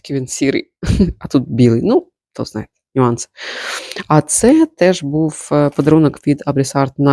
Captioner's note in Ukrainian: сопіння